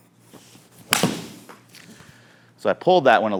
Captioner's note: golf club strikes ball